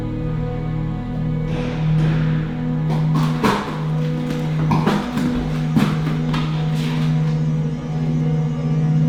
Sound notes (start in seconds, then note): 0.0 enthralling atmospheric music continues; 2.8 horse hooves clacking